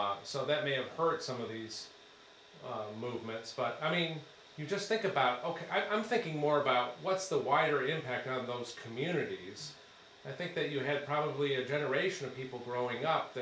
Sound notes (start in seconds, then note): none